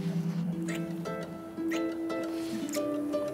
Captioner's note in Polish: odgłosy całowania